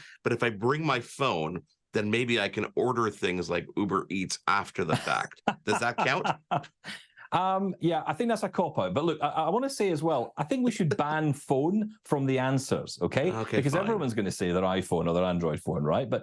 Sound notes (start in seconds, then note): 4.8 laughs